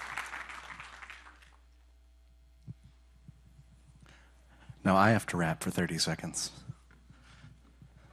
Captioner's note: applause